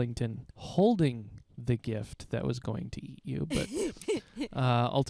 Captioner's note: laughing